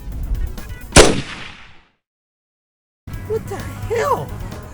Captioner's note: gunshot booms